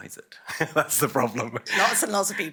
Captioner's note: laughs